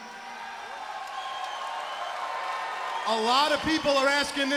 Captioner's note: crowd cheering